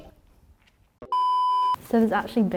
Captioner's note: beep